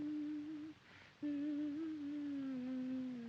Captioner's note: humming